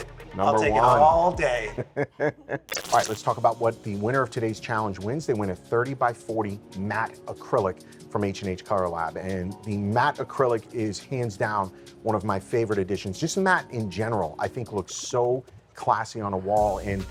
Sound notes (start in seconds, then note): 1.6 laughing